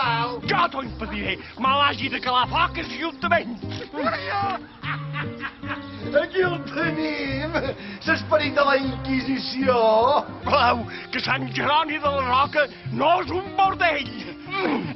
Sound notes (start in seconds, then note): 3.5 laughs mockingly; 3.7 complains and moans in pain